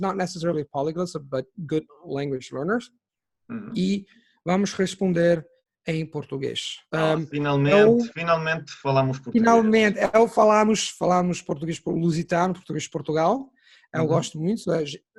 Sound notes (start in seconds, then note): 3.1 in Portuguese